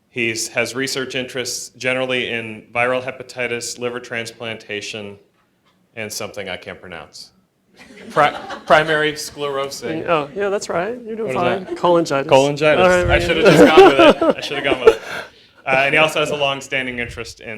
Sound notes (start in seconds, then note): 7.8 laughter; 13.2 laughs